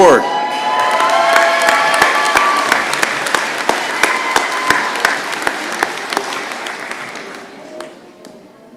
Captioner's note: cheering and applause